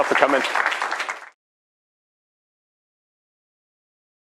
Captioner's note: applause